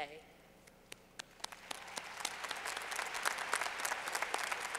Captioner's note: clapping